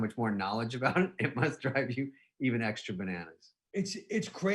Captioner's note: laughing